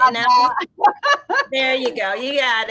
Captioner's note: laughs